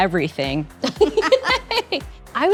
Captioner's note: laughs